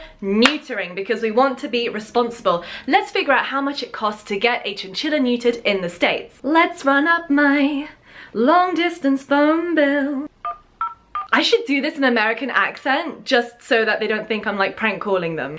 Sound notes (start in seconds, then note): 6.6 singing; 10.4 phone beeping